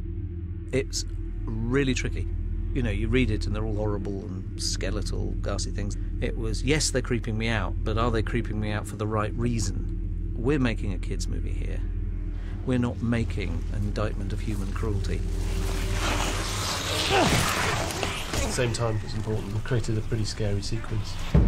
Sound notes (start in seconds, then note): 15.9 harry grunting